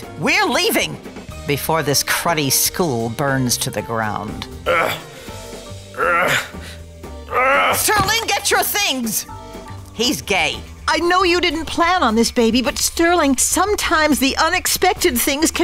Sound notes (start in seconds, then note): 4.6 grunts